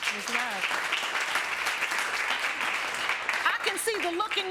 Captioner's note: audience applauding